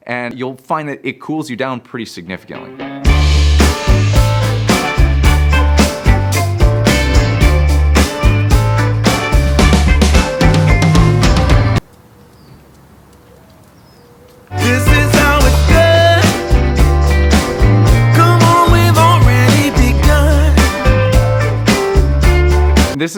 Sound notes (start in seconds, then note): 2.8 upbeat funk music; 11.8 birds tweeting